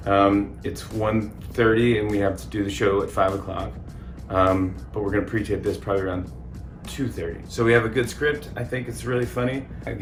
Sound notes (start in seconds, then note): none